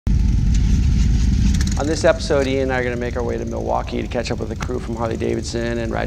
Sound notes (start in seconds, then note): 0.1 motorcycle engines revving